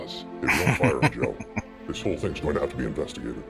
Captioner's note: chuckling